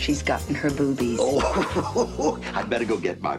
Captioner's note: Fred laughing